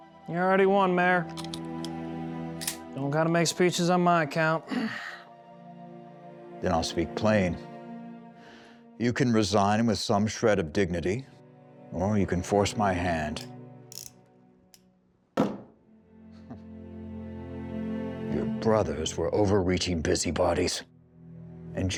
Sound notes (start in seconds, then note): 1.8 clicking sound; 15.4 gun thuds